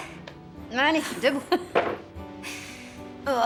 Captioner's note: chuckling